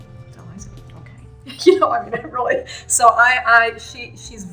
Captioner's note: laughs